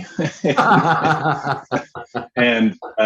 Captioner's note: laughing